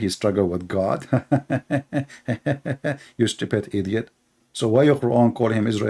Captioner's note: Ketawa